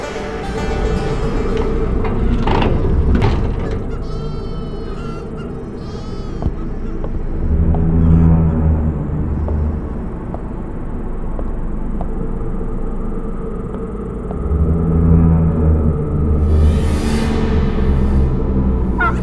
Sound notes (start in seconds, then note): 0.0 banjo music plays; 4.2 animals make frightened noises; 7.6 suspenseful music; 19.0 turkey gobbles, cackles